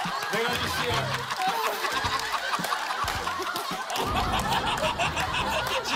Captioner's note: laughs